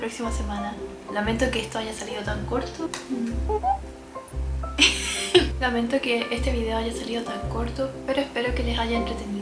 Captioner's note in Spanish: risas